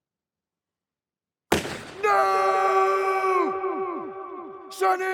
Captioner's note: gun shots; echoes